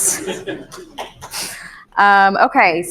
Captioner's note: audience laughing